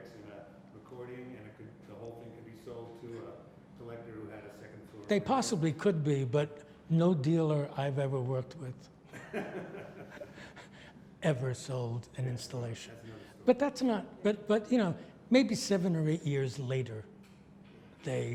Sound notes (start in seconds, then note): 9.1 laughs